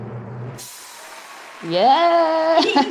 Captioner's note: audience cheering